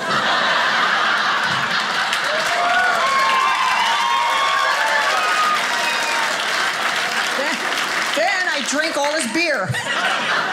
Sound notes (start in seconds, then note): 0.0 audience laughing; 2.3 audience applauding